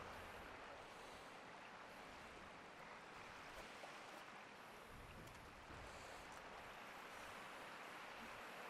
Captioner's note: waves lapping the shore